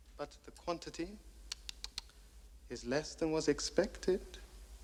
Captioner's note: tsking